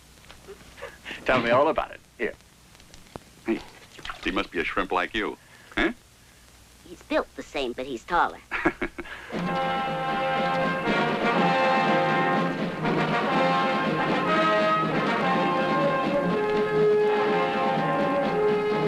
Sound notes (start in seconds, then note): 8.4 laughing; 9.0 grandiose music